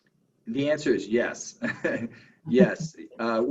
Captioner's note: laughs